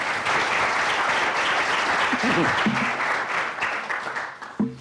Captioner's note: applause